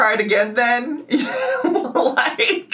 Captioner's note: laughing